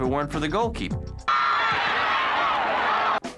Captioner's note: cheering